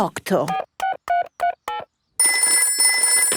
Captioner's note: dialing; telephone ringing